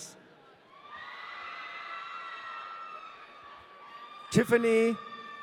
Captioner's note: audience cheering